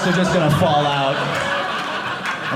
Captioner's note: audience laughing